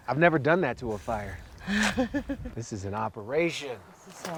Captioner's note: chuckling